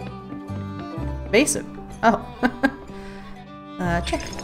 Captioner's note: laughs